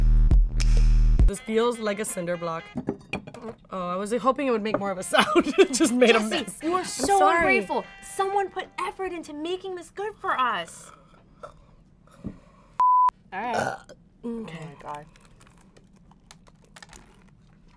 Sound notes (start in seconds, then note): 13.4 burps